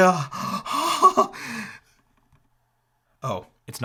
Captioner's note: chuckles